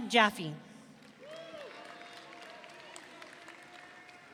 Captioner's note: audience cheering